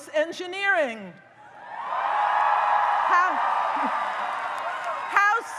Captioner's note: audience cheers